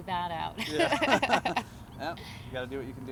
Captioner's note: laughs